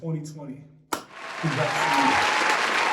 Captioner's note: applause